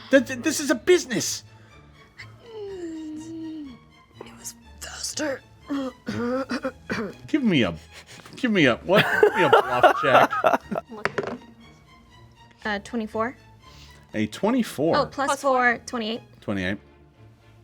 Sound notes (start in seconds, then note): 5.7 coughing; 11.0 dice roll